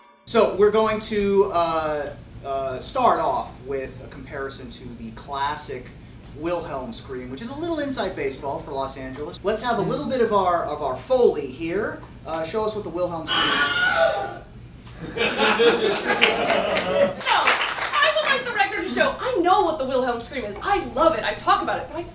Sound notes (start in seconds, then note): 13.2 Wilhelm scream; 15.6 audience applause